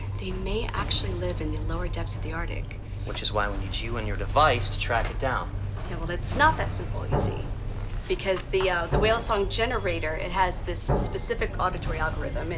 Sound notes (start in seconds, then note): 8.1 thumping